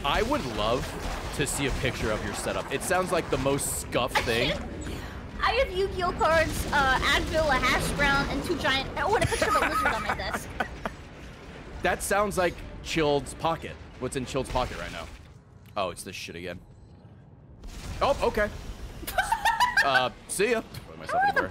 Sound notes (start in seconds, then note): 9.1 laughs